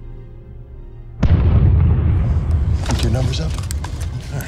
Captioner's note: explosion booms